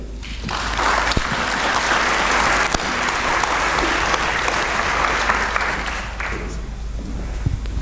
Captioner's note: applause